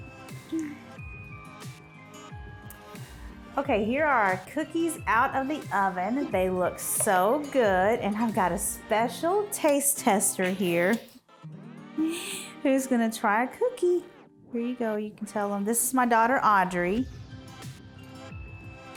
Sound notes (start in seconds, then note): 12.0 chuckling